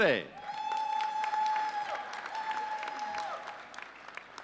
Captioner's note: audience cheering